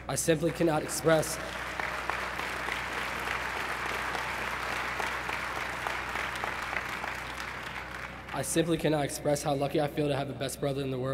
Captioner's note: applause